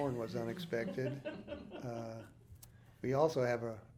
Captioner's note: group laughing